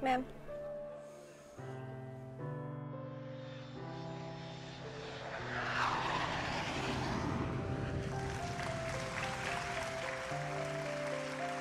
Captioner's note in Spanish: aplausos